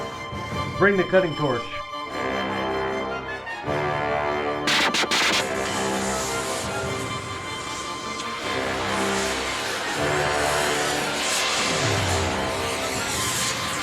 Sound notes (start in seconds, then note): 4.3 torch sputtering; 9.8 dramatic music plays